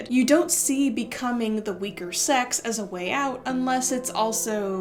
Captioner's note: none